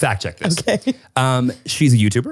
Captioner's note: laughing